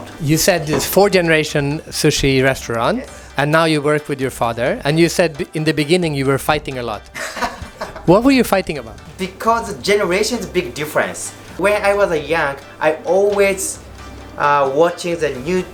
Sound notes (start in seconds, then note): 7.1 laughs